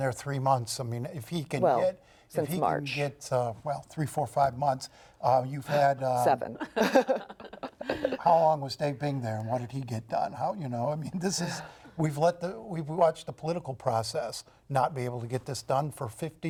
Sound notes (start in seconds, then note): 6.5 laughter